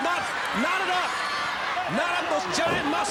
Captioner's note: crowd cheering